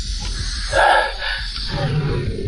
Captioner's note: sighs